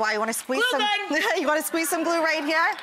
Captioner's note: audience laughs